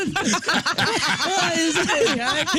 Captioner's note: laughing